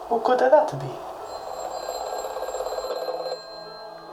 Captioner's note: phone rings